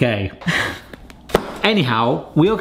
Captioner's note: laughs